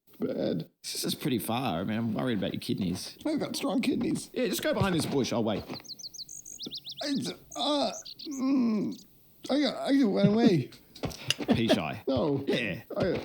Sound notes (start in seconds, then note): 9.4 laughing